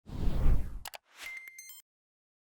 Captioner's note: swoosh; typing and electronic chimes